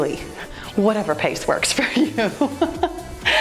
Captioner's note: laughs